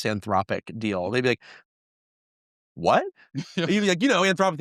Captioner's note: host chuckling